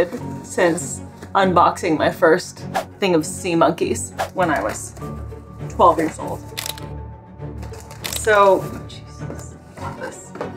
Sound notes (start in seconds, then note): 6.5 background music; 6.6 camera click sound effect